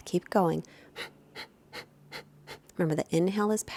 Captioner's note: exhaling loudly